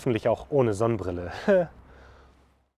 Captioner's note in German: lacht